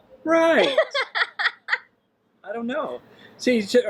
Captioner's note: laughing